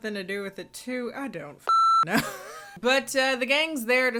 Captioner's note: beeps; laughs